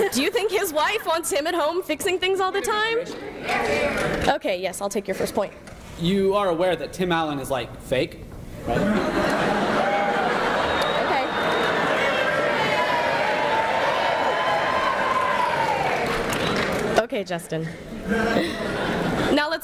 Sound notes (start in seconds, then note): 11.6 audience laughing